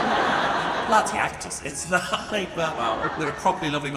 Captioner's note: audience laughs; laughs